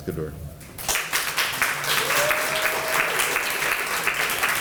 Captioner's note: applause